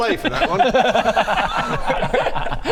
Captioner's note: deranged laughter